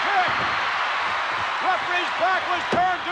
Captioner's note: audience cheering